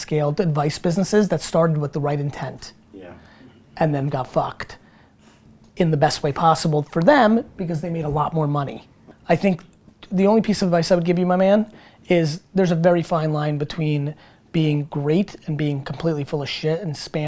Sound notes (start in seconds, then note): none